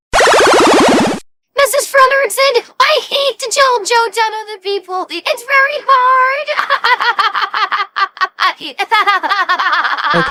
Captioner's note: laughing